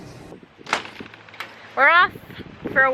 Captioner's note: door banging